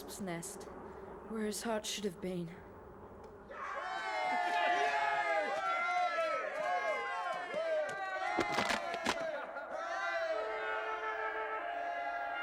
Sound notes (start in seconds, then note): 3.6 all cheering